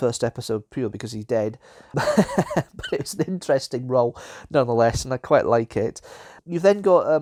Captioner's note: laughs